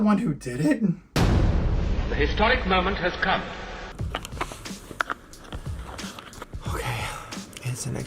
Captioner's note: sound effect